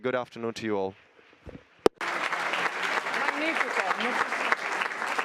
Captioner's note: audience applauding